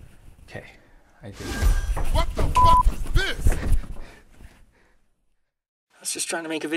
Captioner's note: poof